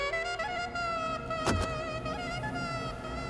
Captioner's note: door locks click